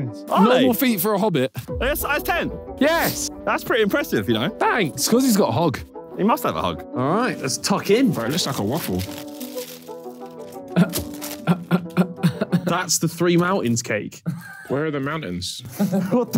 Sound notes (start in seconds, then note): 11.4 Vik chuckling